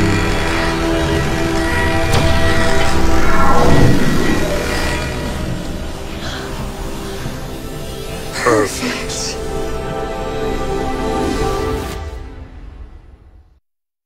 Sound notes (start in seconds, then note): 1.8 zapping; 3.5 pulsing; 6.2 sigh